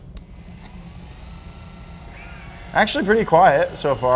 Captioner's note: sander humming